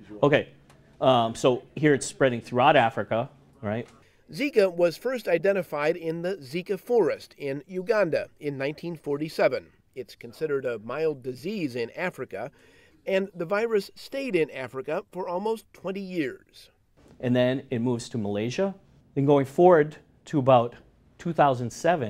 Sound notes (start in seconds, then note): 4.5 voiceover